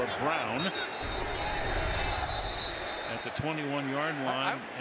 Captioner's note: whistle blows